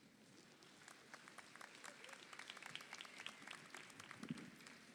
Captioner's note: audience applauds